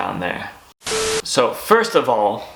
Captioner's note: buzzing